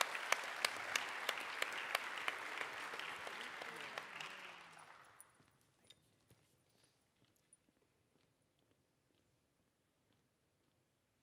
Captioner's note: applause